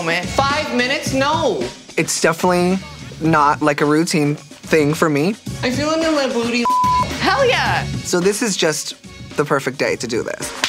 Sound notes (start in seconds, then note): 6.6 beep